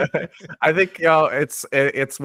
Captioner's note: laughs